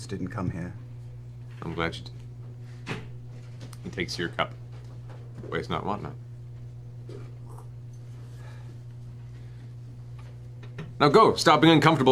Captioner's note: sips